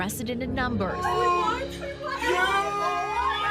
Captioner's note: overlapping chatter